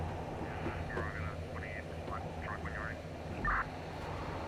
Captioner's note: radio chattering